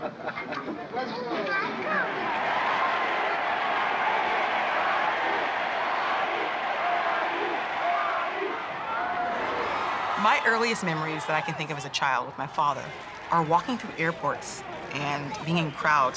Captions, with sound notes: (crowd cheering) - [Crowd] Ali! Ali! Ali! Ali! - My earliest memories that I can think of as a child with my father are walking through airports and being in crowds